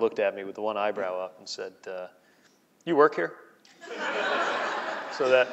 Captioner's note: laughing